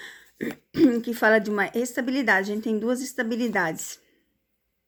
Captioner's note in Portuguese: limpando a garganta